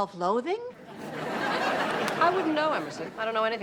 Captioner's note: audience laughs